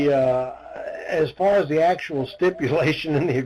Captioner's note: laughs